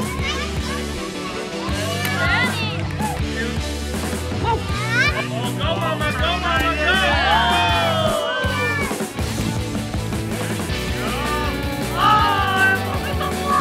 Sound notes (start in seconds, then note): 0.2 all shouting; 5.3 more distant shouting